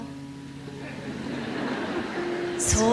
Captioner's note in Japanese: 客席ざわつく